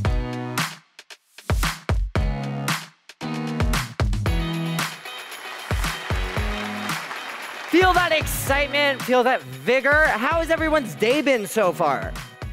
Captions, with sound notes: (audience applauds) - Feel that excitement? Feel that vigor? How has everyone's day been so far?